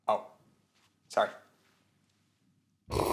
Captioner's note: slurps